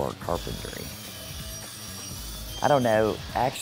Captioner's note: sawing